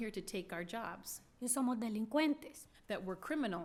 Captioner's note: speaking spanish